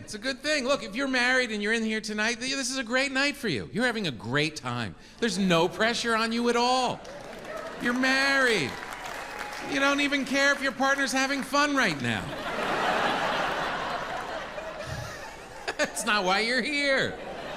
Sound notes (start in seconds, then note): 8.7 audience applauds; 12.8 audience laughs